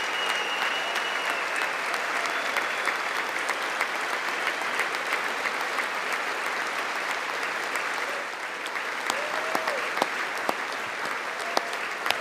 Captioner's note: applause